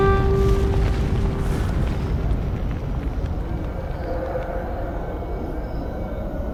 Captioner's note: wind howls